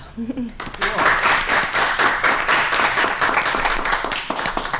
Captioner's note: applause